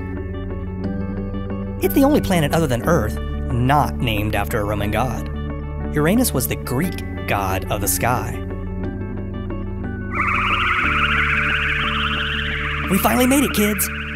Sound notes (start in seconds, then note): 10.1 spaceship flying sounds